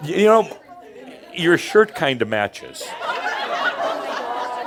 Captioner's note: more laughter